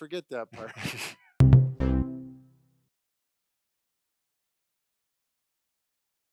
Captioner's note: laughs; gentle electronic tones